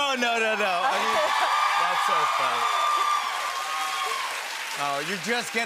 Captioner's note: cheers and applause